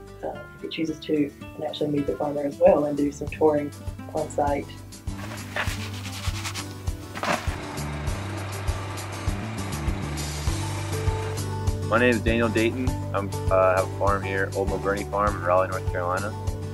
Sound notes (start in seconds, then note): 7.0 grains and seeds falling; 7.1 motor running